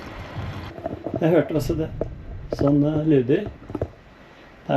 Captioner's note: tank rumbles more